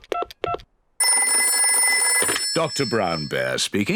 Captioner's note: dials phone; phone rings